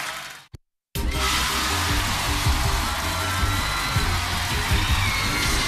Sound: cheers and applause

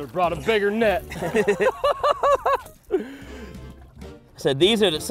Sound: laughter

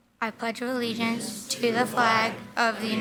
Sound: in Unison

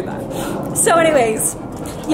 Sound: she sniffles

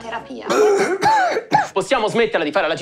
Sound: coughs

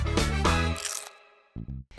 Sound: crunch sound

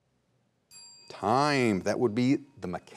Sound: bell dings

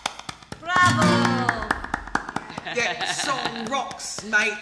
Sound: clapping

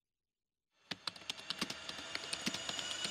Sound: typing and swirling sound

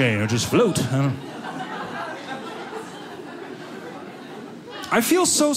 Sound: audience laughing

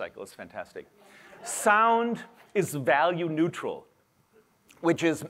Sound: laughter

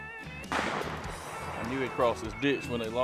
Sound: gun fires

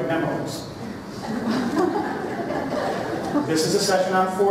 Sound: laughter

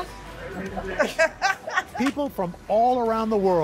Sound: laughter

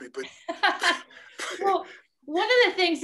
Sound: laughing

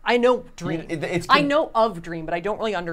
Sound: stuttering

